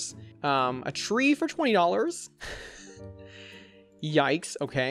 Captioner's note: chuckles